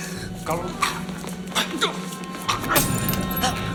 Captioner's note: gasping; gasping